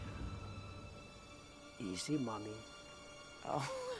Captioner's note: speaking Slavic language